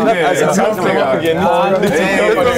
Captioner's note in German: Stimmengewirr